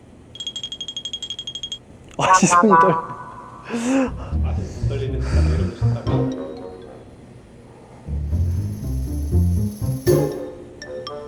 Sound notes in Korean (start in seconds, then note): 3.6 심호흡 중